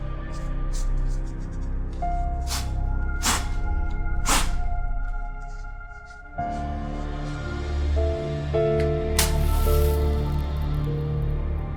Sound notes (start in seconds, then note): 3.2 blowing dust; 9.1 lighting a match